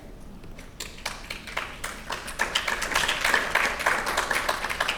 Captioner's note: audience applauding